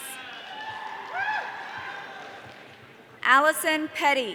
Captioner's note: audience cheering